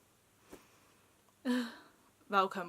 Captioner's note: sighes wishfully